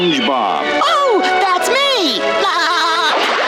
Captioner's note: laughing